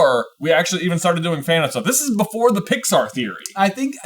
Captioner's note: none